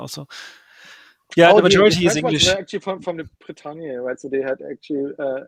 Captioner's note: chattering